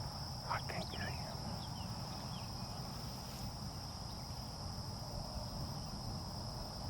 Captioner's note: insects chirp; birds chirp